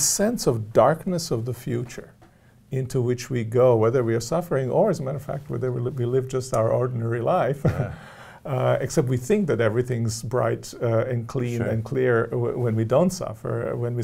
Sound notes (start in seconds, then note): 7.6 chuckles